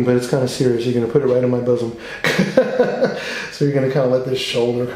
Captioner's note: laughs